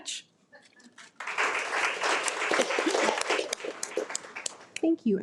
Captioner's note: attendees applaud